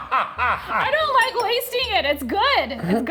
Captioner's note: laughs